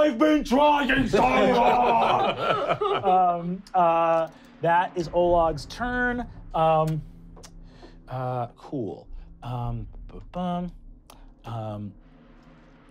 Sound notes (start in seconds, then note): 2.7 laughing